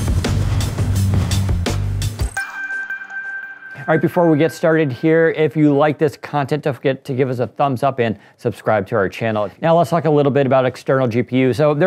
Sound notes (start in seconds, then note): 2.3 light electronic chime